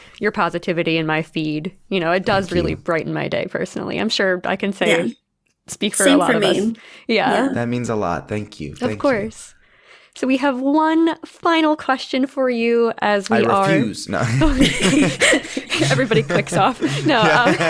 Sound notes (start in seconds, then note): 14.1 people laughing